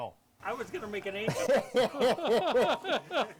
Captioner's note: both laughing